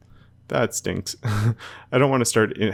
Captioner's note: laughs